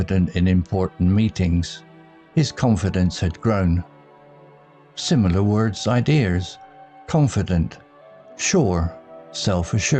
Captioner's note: confident